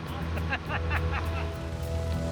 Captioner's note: laughs